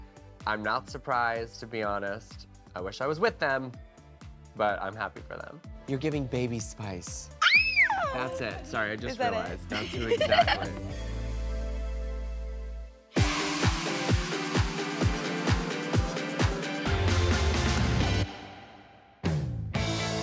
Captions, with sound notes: I'm not surprised to be honest. I wish I was with them, but I'm happy for them. You're giving Baby Spice. [squeals] That's it. Sorry, just realized. [laughing]